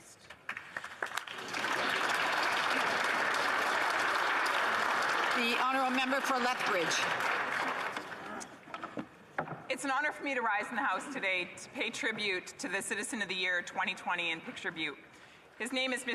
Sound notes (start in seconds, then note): 8.3 applause